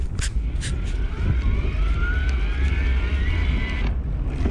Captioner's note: motor roars